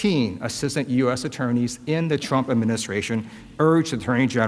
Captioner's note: none